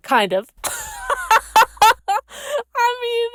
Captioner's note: laughs